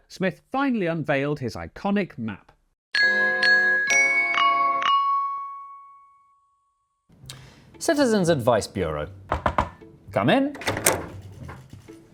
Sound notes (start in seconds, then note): 9.3 knock knock